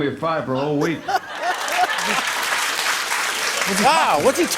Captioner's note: laughter and applause